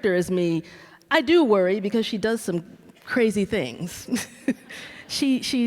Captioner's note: laughs